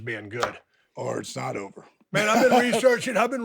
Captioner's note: laughs